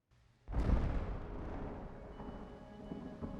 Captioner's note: thunder rumbling